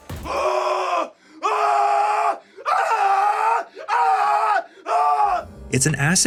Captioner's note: screaming